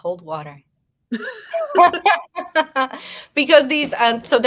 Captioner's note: women laughing